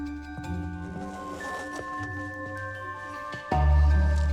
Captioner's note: zipper unzipping